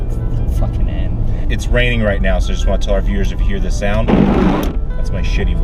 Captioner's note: windshield wiper noise